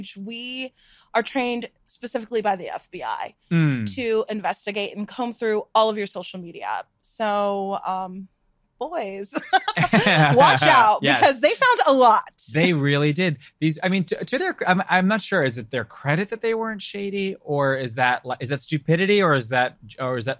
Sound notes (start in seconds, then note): 12.5 laughs